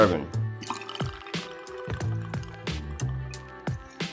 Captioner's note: liquid flowing; relaxing music